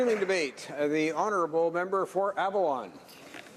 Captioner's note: applause